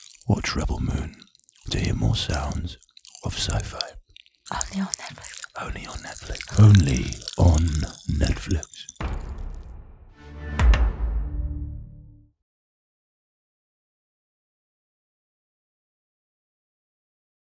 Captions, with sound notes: Watch "Rebel Moon" to hear more sounds of sci-fi. - Only on Netflix. (crackling) - Only on Netflix. (crackling) Only on Netflix! (logo whooshing)